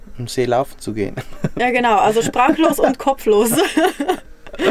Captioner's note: laughting